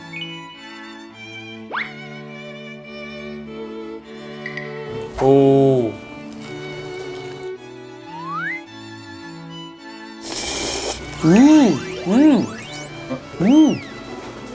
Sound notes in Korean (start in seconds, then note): 13.2 으음